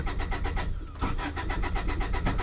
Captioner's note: engine cranks